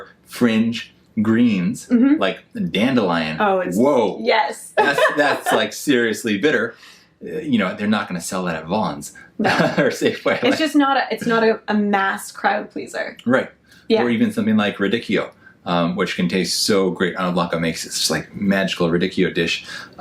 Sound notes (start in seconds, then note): 9.4 laughs